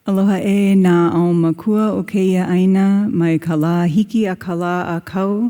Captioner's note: speaks Hawaiian